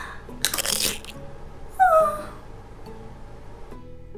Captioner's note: crunch; cries